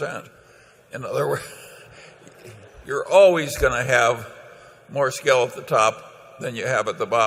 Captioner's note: laughter